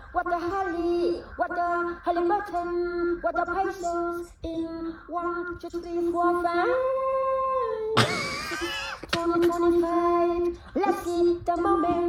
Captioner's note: laughing